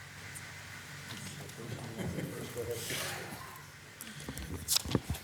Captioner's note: speaking faintly